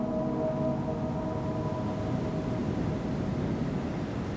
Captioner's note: wind whooshes